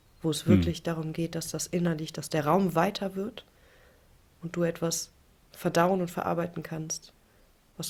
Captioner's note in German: räuspern